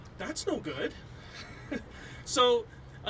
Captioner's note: chuckles